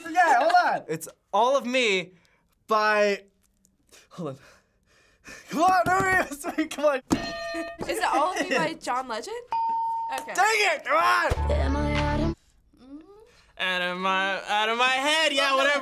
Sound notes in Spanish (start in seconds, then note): 9.5 ding